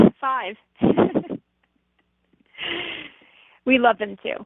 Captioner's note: laughs